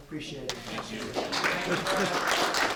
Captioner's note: applause